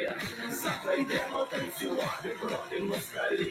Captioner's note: audience clapping; troupe singing in Ukrainian